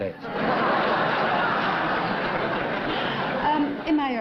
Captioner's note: laughter